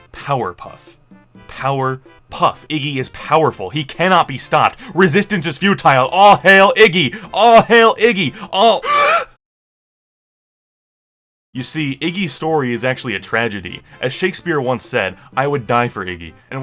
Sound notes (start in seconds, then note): 8.3 gasp